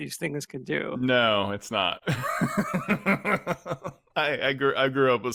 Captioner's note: laughs